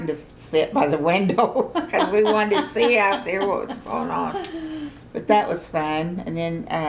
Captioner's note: laughter